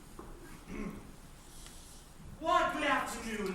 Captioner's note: clears throat